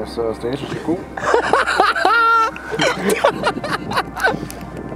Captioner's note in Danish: Laughing